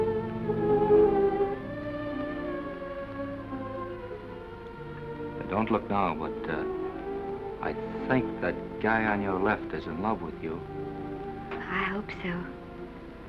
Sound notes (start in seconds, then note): none